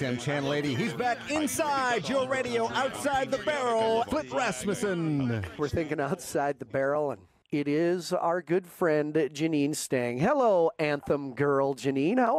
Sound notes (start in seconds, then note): 0.1 radio announcer voice; 4.2 radio host #3 voice